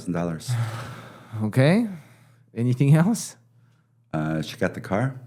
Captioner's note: sigh